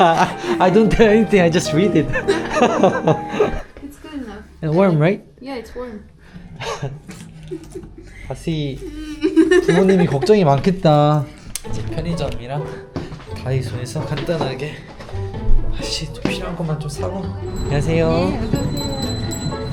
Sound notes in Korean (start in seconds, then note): 6.4 끙끙